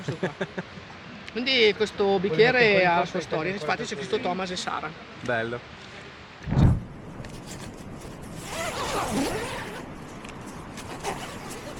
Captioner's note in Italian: risate